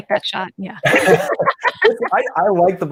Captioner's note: laughs loudly